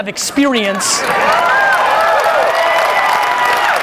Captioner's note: applauding